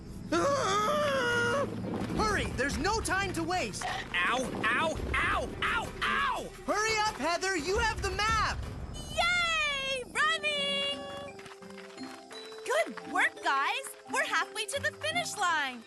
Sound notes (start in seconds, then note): 0.3 Scott Screaming; 3.8 chomping Sounds